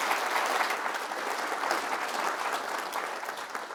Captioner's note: applause